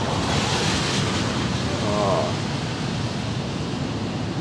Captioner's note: traffic passing